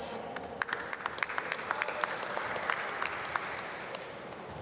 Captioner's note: applause